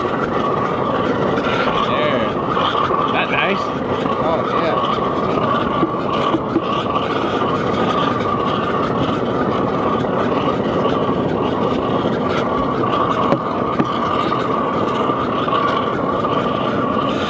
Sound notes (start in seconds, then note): 0.1 fire roaring still; 5.9 fire roaring; 13.2 tapping